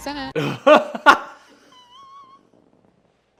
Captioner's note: laughing